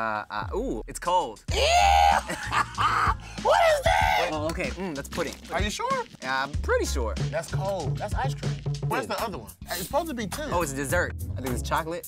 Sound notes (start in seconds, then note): 1.5 screams and laughs